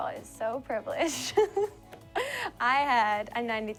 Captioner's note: laughter